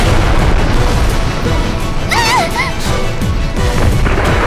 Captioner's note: coughing